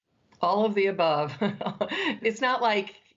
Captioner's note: laughter